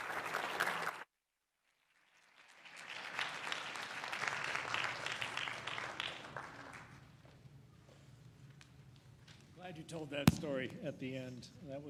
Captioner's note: applause